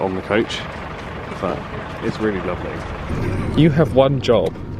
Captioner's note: engine chatters